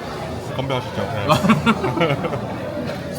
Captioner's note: laughs